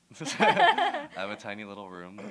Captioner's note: laughter